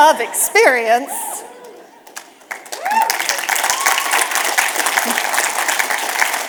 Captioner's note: audience cheers and applause